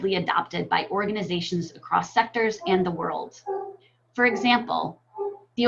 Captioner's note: dog barking